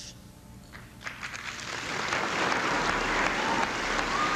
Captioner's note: applauding